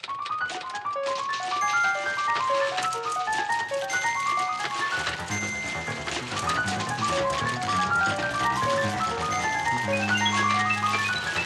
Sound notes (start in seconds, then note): 0.3 somber piano music; 4.8 typewriter carriage dinging; 4.8 typewriter clacking